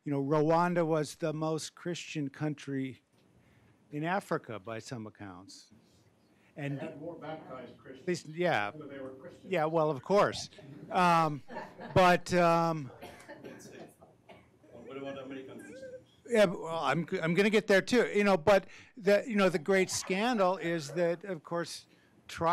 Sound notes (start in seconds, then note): 11.1 group laughing; 13.9 speaking faintly